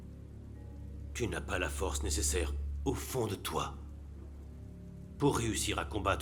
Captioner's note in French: moine parlant une langue étrangère